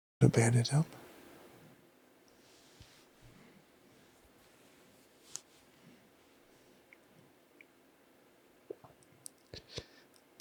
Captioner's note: sighs